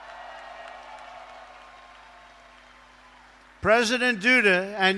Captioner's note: applause